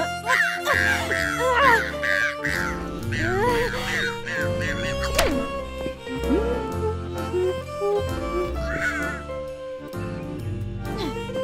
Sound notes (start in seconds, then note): 5.1 door slams; 6.7 Jess hums a tune